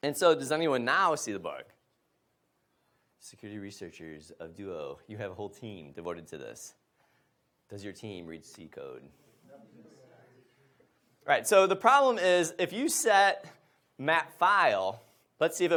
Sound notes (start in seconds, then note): 9.9 murmurs from audience